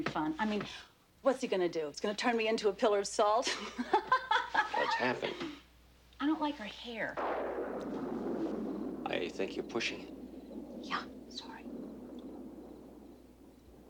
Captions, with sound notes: Still, it could be fun. I mean, what's he going to do? He's gonna turn me into a pillar of salt? [chuckles] Well, it's happened. I don't like her hair. [thunder rumbles] I think you're pushing it. Yeah, sorry.